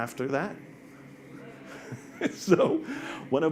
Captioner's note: audience responds